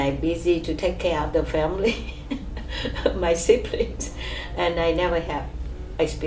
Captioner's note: laughs